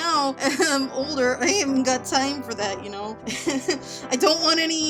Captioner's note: laughing